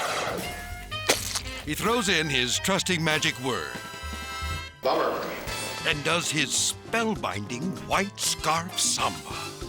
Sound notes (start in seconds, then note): 1.0 object splats